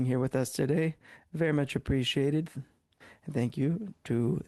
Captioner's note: speaking French